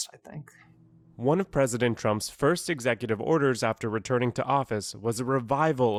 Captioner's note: voice-over